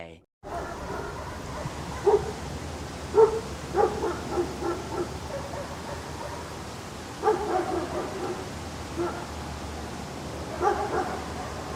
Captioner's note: dogs barking